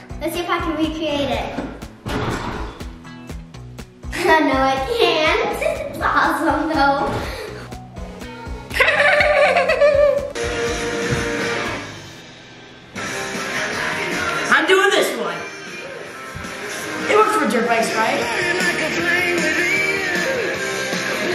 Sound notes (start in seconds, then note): 8.7 laughs; 11.0 rock music